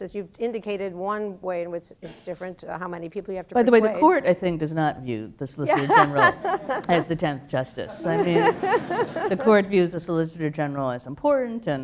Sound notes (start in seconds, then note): 5.6 laugh; 7.9 laughter